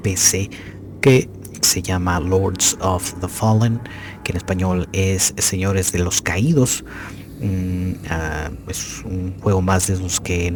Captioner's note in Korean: 스페인어로 lords of the the Fall